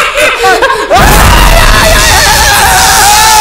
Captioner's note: Screaming